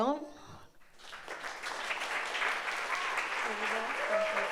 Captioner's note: audience applauds